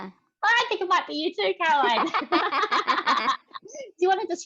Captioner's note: laughter